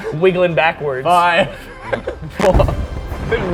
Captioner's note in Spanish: ríe